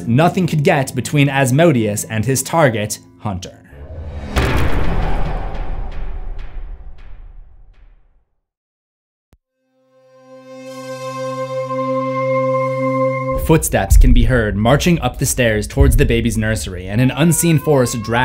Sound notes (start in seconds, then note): 3.8 impact